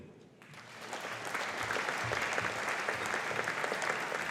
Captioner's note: audience applauding